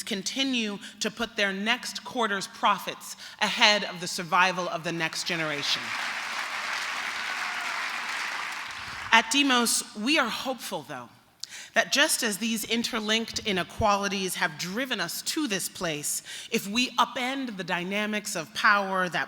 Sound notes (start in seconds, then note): 5.1 applause